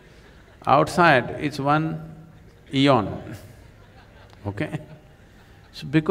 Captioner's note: laughter